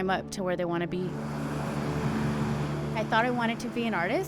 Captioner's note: warm music; waves rushing